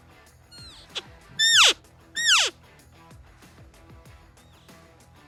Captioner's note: elk call